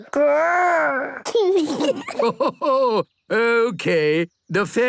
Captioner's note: kids giggling; Grandpa laughing